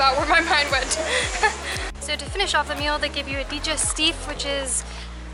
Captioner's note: laughter